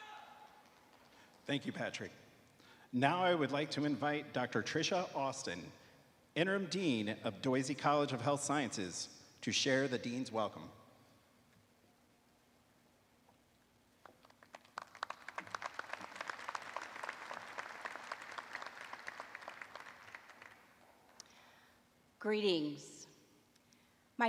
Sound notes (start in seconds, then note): 10.1 applause